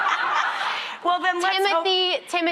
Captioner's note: laughing